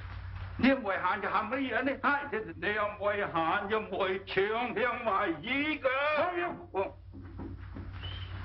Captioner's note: complains vigorously in Chinese